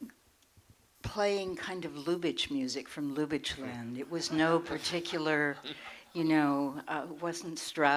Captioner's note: laughter